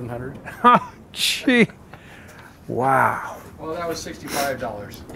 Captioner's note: laughs